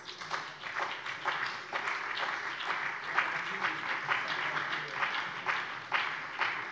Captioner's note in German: Beifall bei der CDU und dem BÜNDNIS 90/DIE GRÜNEN